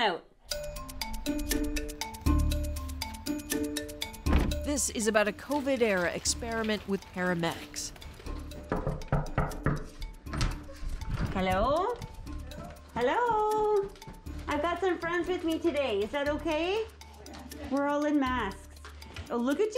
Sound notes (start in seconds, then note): 8.6 knocking on door